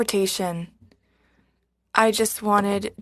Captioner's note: speaking French